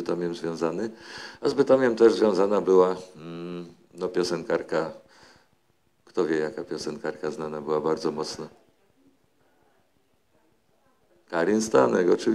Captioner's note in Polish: głosy z sali